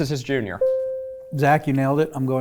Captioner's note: bell ringing